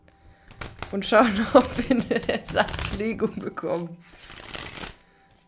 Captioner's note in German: gelächter